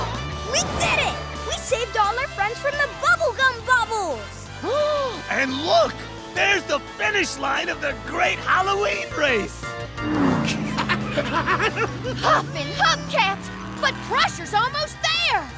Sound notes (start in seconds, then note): 10.2 laughing